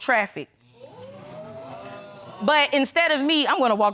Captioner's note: audience exclaims